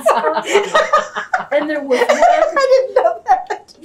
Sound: laughter; laughs

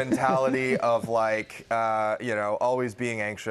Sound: laughter

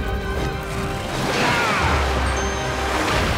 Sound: groaning

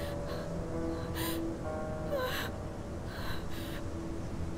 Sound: Googly sobbing

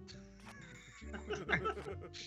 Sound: laugh

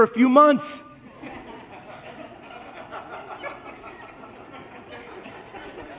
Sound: congregation laughs

